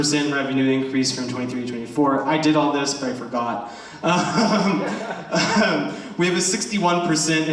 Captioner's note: laughs